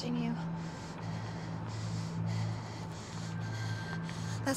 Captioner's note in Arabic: يتنفس بصعوبة